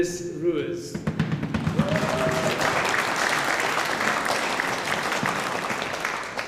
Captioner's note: feet stomping; audience applauding